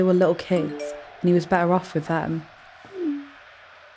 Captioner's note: phone chimes